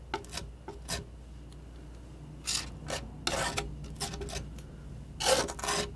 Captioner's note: scratching